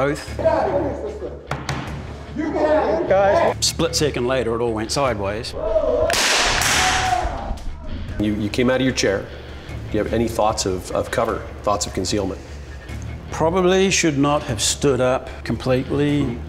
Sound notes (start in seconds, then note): 5.7 voiceover; 6.2 gun firing